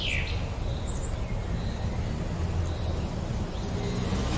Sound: car engine roaring

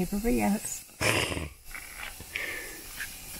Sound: laughs

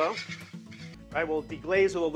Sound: whisk scraping

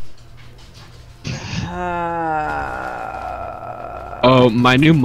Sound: groan of distress

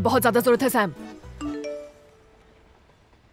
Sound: cell phone chimes

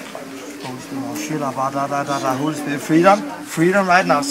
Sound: speaking in tongues

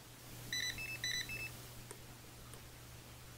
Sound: scanner beeping

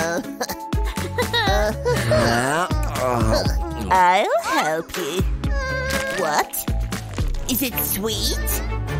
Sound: roaring

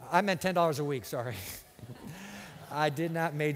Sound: laughter

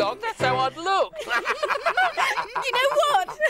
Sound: everyone laughs

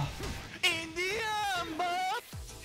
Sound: screaming

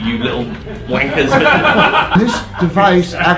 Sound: laughing

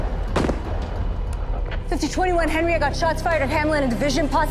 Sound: gunshots

